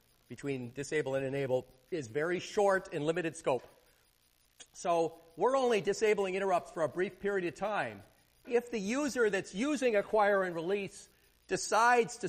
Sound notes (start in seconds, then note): none